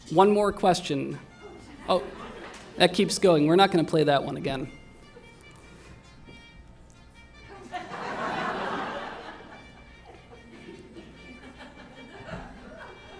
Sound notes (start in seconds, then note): 0.1 faint horn music; 7.5 laughter